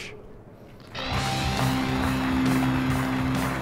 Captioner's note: applause